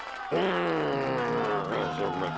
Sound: grunts; growls

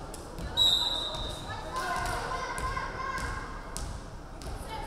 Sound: referee whistling

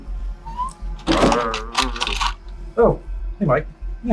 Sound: intense music plays; zombie moans

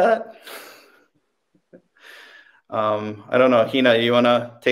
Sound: laughing

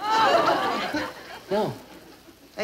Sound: audience laughing

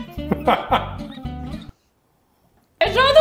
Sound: laughing

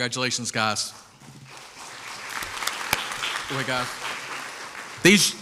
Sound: crowd applauds

